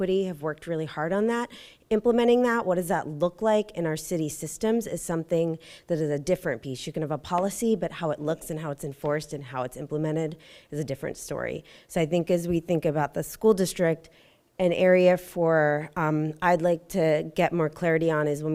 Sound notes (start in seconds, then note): none